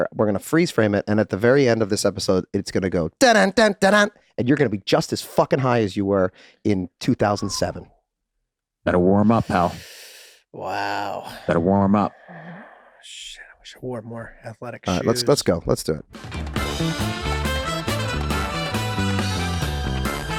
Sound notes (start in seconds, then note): 3.2 Rob imitating exciting music; 9.4 Charlie sighing readily